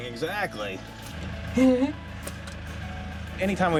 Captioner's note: laughing